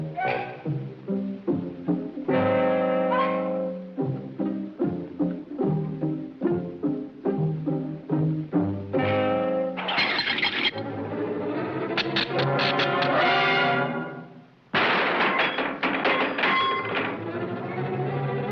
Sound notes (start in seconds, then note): 10.0 metal whooshing; 11.5 suspenseful music; 14.7 metal shatters